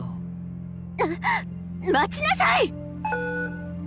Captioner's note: gasp